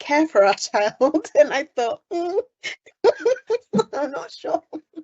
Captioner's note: laughing